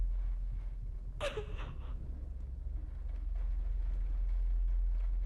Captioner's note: Catherine crying